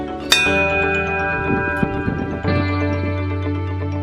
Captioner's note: bell dings; upbeat music